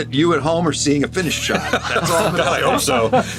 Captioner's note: all laugh